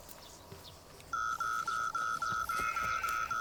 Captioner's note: loud beeping sound